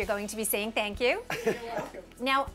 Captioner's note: laughter